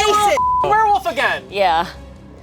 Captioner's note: beep